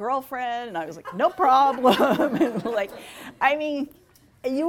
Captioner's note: laughing